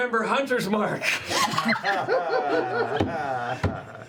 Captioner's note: laughter